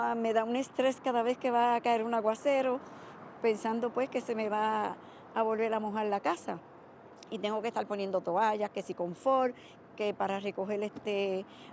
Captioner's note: speaking spanish